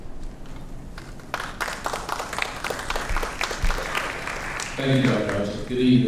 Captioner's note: audience applauds